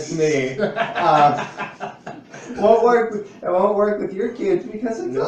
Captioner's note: laughs